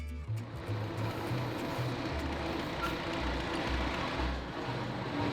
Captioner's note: locomotive rattling